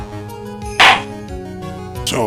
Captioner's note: gavel slams!